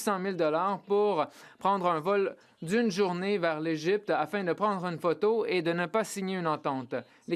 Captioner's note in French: voix de l'interprète